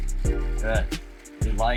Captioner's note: water sounds